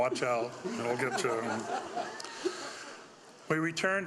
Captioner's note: audience laughing